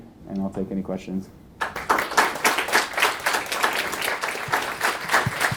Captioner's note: audience applauding